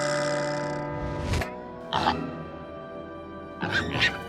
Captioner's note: pig squeals